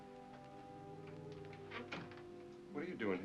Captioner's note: door closes